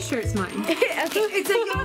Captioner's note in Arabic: ضحك